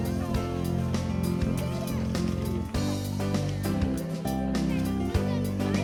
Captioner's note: children playing